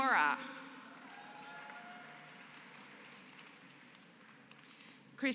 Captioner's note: applause